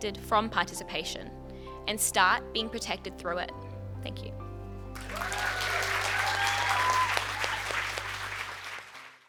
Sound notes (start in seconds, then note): 4.9 cheers and applause